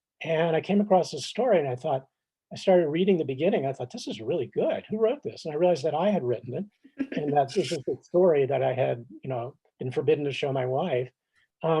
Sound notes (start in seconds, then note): 7.0 chuckles